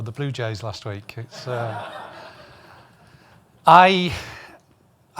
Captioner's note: audience laughing